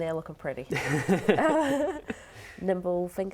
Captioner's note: laughing